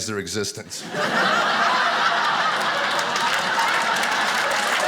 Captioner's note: audience applauding